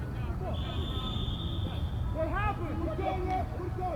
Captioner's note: whistle